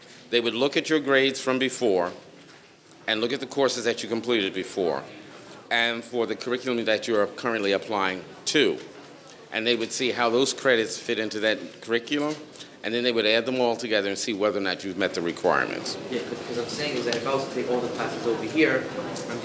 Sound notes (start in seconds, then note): none